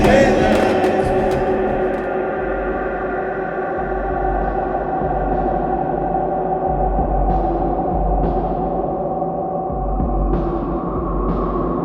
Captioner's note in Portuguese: som distorcido